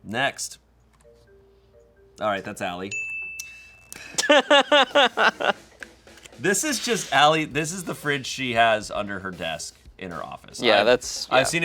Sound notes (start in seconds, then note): 2.8 bell chimes; 4.0 laughs